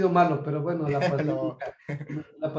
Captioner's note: laugh